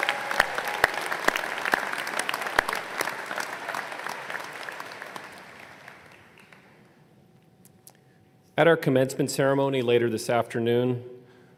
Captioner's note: applause